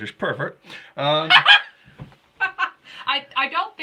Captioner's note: laughing